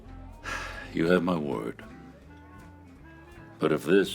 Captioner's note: sighs